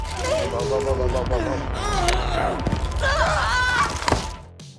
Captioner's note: Mazey yells. Bones crack